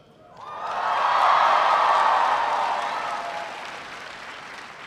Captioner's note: audience cheering